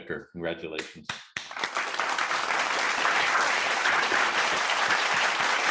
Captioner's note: audience clapping